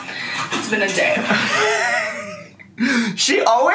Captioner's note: laughing